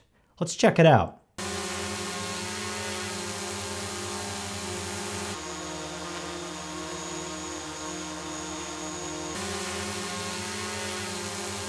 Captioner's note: drone noise